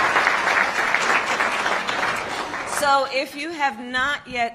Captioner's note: applause